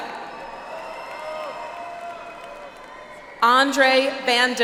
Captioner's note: audience applauds